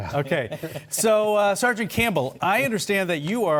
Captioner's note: laughter